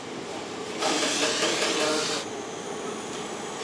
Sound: hammering and hissing

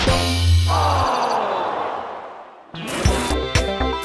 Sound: buzz

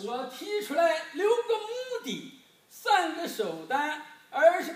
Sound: speaking foreign language

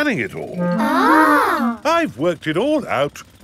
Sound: children gasp in awe

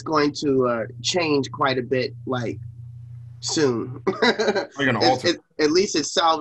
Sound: laughs

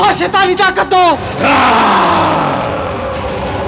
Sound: grunting

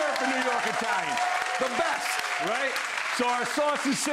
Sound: audience applauding

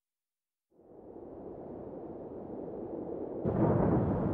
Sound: wind howling

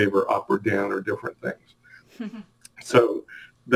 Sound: chuckles

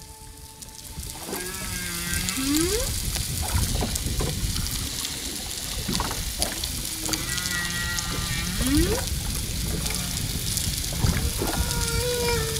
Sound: whale sounds

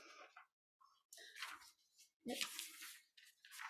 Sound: pages turning

